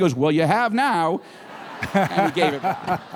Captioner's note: laughter